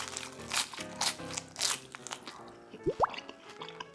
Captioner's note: crunchy